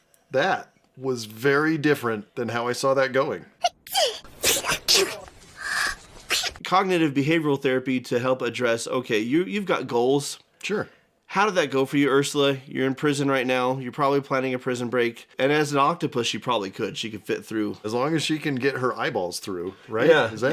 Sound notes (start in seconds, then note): 3.7 sneezes